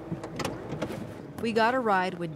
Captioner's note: door clicking